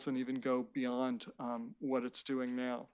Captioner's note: none